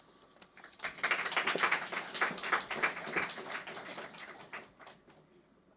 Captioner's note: audience clapping